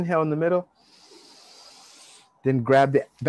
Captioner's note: inhale deeply